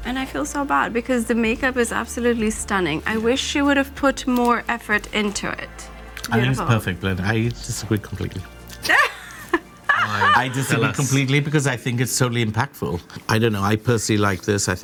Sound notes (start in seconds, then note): 8.8 group laughs